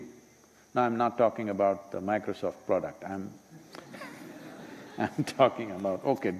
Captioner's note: laughter